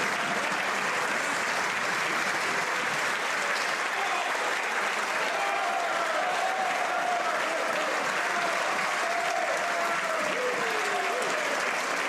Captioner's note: some Applause